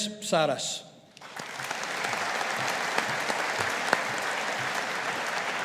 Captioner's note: audience applauding